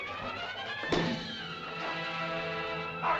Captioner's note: suspenseful music; whack; Loana's father yells out